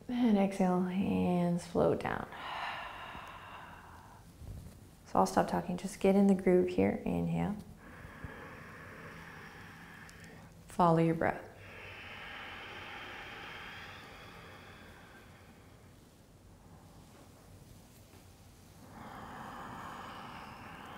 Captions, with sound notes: Then exhale, hands float down. (exhaling) So I'll stop talking. Just get in the groove here. Inhale. (inhaling) Follow your breath. (breathing)